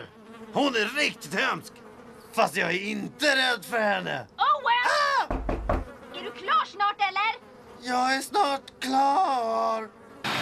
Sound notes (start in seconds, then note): 5.2 knocking on the door